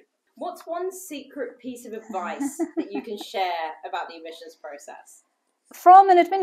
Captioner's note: laughter